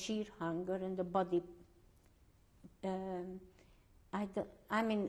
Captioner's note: pauses for 3 seconds